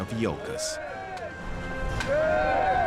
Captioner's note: rowers shouting